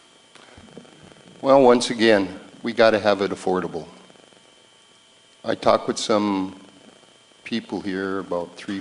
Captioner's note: sighs